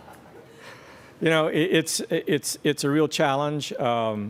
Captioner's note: laughter